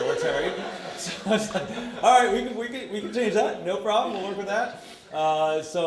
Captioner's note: audience laughter